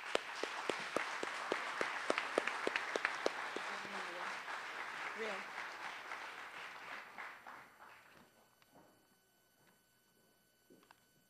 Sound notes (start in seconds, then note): 0.0 applause